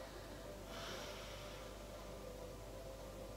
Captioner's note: breathing out